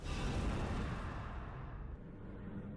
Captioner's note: whoosh